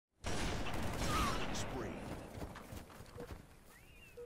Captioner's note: explosion on gaming system; gaming system beeping